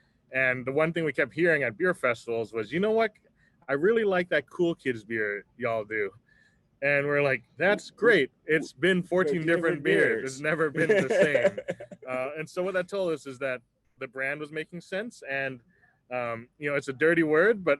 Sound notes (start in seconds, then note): 10.5 laughs